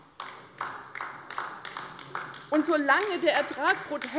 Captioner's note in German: Beifall bei der LINKEN